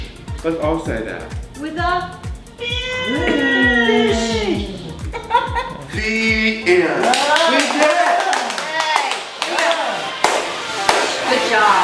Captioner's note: laughter; applause